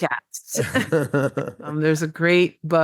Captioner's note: laughs